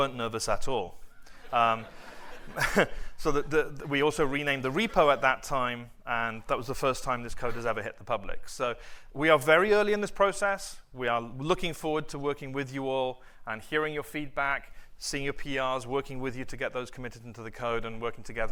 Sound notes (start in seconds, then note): 1.4 laughter